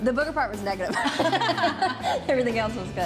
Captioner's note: both laughing